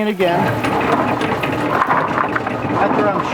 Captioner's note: washer tumbling